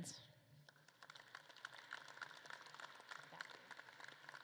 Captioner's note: audience claps